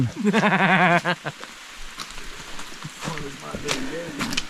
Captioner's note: laughing